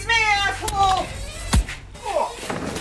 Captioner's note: stick thumping